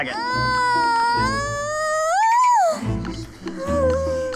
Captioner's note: screaming